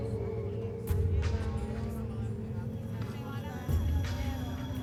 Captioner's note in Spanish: murmullo de conversaciones